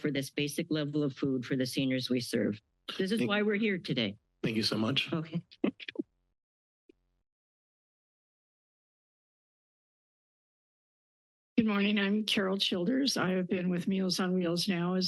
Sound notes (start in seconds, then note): 4.4 chuckles